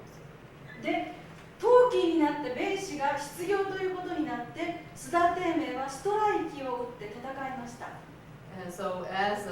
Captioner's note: speaking Japanes